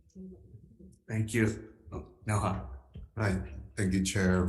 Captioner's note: speaking in foreign language